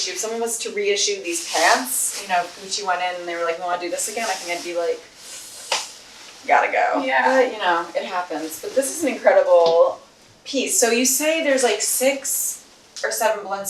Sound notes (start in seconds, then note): 5.8 sighs